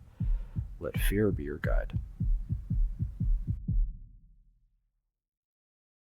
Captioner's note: breath